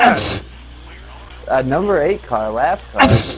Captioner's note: sneezes; sneezes